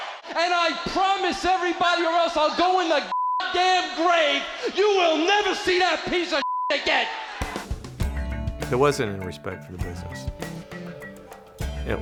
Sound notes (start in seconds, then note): 3.3 beeps